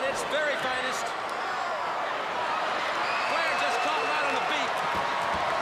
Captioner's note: crowd chatter